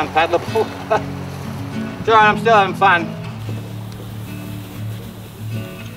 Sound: chuckles

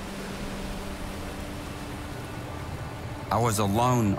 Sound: boat engine hums

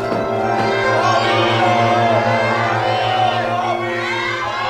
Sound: crowd

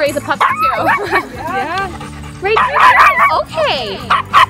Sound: laughing

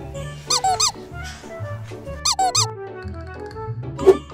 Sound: squeaking noise

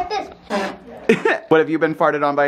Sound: makes fart noise

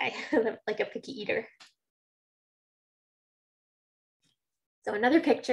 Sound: chuckling

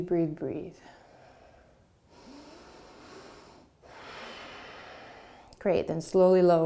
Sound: deep breathing

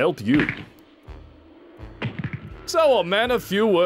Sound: cracks knuckles

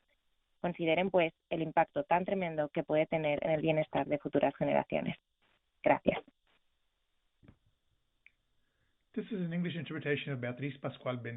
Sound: speaking spanish

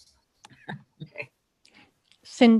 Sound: chuckles

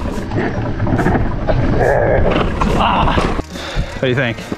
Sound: slow motion groaning; groaning; heavy breath

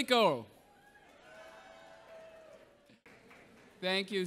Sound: audience cheering

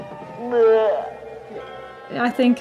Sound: Homunculus moaning

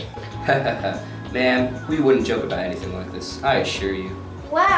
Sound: laughs

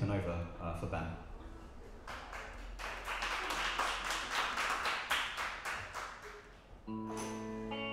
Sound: applause

